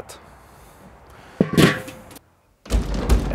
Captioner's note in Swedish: Locket läggs på med en duns